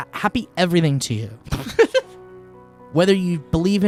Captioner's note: laughing